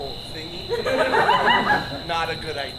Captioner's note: audience laughs